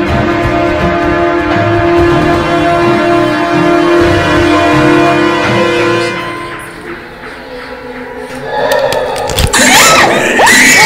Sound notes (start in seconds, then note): 1.9 dark, ominous music; 8.7 growling; 9.7 branches snapping